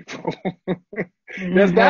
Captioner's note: laughter